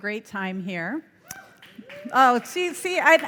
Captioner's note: audience cheering